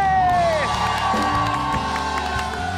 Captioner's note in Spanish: Ovación